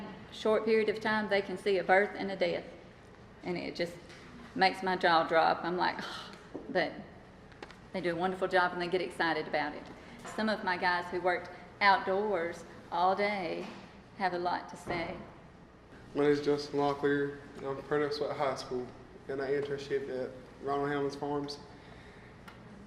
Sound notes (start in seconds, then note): 6.2 gasp